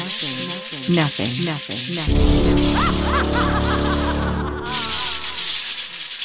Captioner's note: laughs evilly